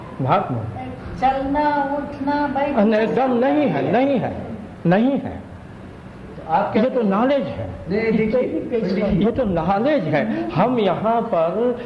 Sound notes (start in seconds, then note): 2.7 discussion in Hindi